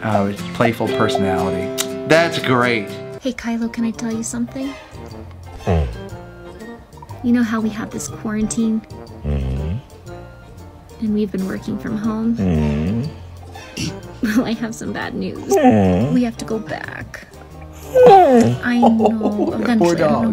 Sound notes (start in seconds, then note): 5.5 dog whining; 9.2 dog whining; 12.4 dog whining; 15.4 dog whining; 17.7 dog whining